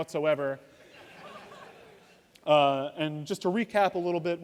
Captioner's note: laughter